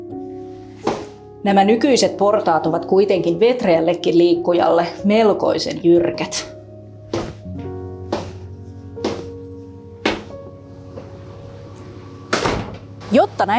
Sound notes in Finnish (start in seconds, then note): 7.0 Raskasta askellusta